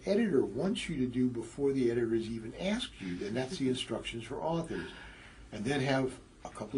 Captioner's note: laugh